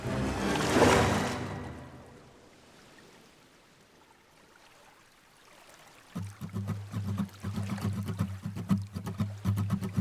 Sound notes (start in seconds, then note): 0.0 dramatic music; 2.9 water sloshes